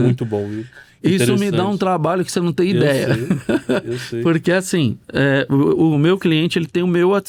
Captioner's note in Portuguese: risadas